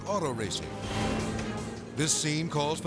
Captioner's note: car revving